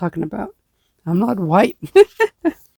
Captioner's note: laughing